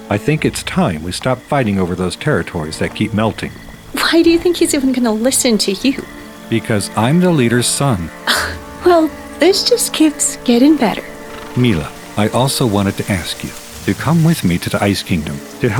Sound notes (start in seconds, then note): 8.2 chuckles